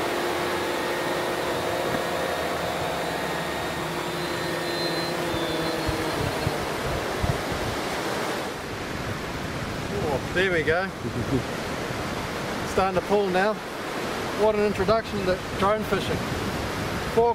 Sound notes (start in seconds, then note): 0.0 drone motors running; 6.1 drone motors shutting down; 8.7 waves crashing; 11.0 giggles